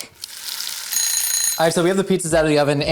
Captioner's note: timer ringing